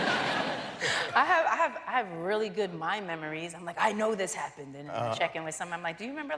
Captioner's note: laughter